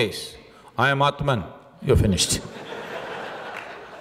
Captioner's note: laughter